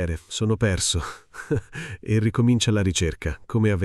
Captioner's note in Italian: Haha